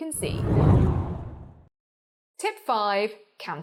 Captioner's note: air whooshes